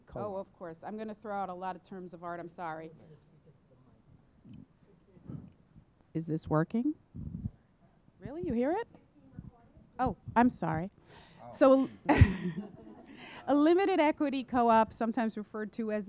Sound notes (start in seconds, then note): 12.0 laughing